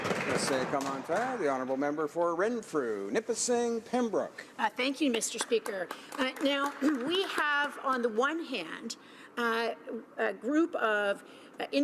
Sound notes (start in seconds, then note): 6.4 speaking in french